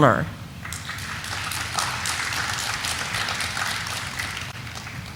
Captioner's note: audience applauding